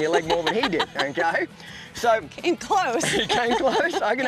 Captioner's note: laughs